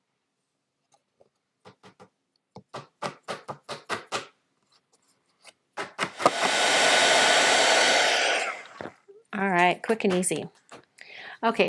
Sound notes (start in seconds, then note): 6.0 heat tool whirring